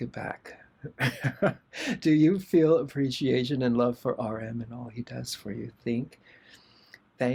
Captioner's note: laughter